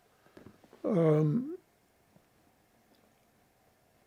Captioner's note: pauses 6 seconds